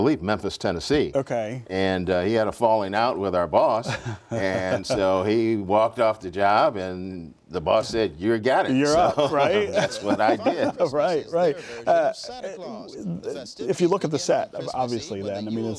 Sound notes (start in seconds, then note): 3.8 laughter; 8.9 laughs